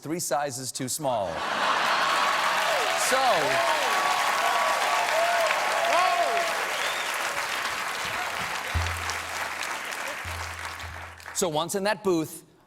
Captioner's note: cheers and applause